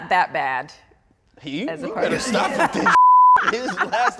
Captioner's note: beep